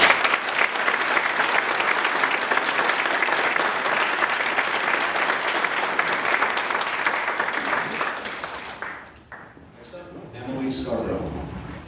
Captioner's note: applause